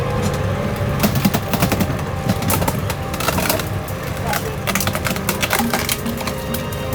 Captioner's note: branches cracking; leaves rustling